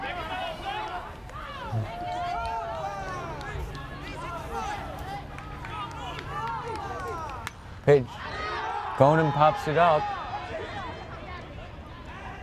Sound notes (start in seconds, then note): 0.6 fans yelling; 7.8 bat cracks